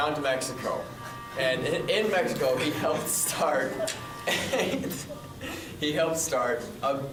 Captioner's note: laughs